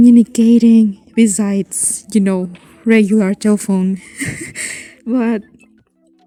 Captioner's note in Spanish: risas